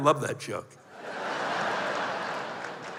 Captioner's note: laughter